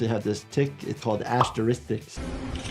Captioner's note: graphics popping; suspenseful game music